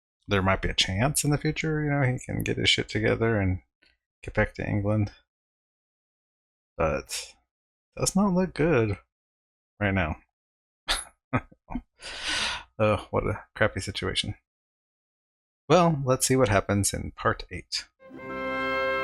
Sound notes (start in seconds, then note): 10.6 chuckling